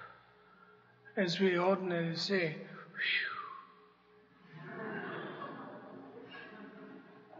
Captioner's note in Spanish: risas